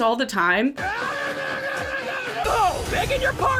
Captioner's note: screaming